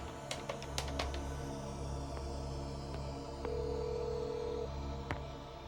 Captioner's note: phone ringing